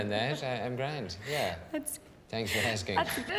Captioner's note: giggling